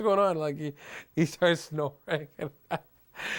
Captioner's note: laughing